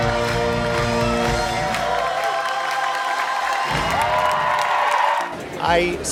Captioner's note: cheers